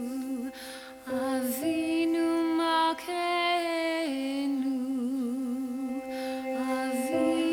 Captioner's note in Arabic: صلاة يهودية بالعبرية; صلاة يهودية بالعبرية